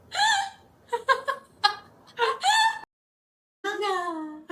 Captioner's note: laughter